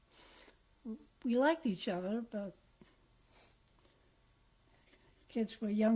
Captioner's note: pauses for 3 seconds